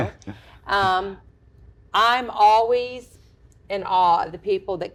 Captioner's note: laugh